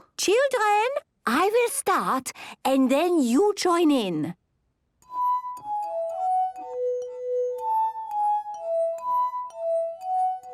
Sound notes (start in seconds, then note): 5.0 glasses vibrate to the tune